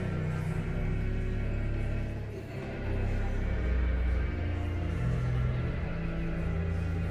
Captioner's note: elegant music continues; guests continue chattering